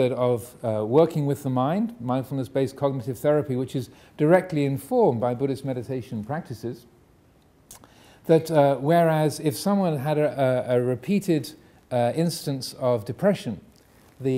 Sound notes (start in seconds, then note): none